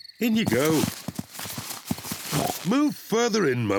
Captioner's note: oinks